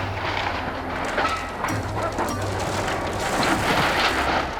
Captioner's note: yacht crumbling